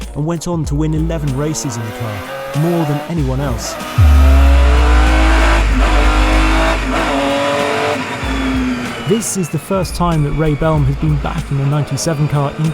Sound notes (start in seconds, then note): 4.0 engine roaring